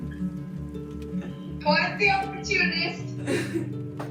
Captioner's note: laughs